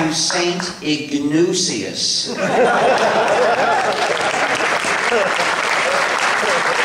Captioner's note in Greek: Γέλια και χειροκροτήματα από το ακροατήριο